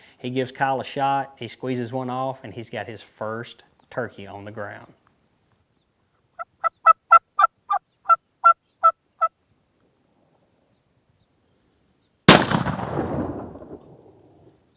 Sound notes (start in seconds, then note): 6.4 turkey gobbles loudly; 12.3 shot fires